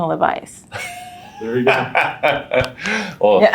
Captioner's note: laughing